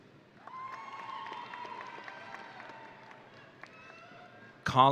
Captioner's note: audience cheering